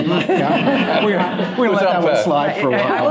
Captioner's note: laughter